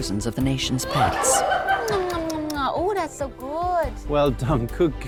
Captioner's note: kissing